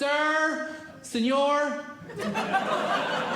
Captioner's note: audience Laughing